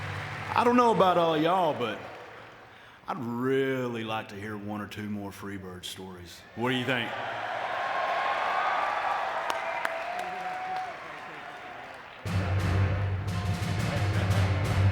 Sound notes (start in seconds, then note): 8.3 audience cheering; 12.2 upbeat music